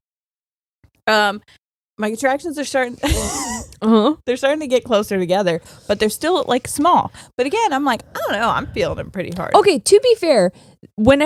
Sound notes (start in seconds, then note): 3.0 laughing